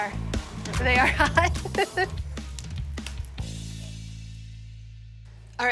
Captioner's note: laughs